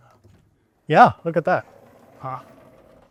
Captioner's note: object whirring